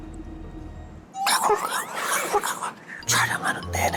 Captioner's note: ribbit, ribbit x2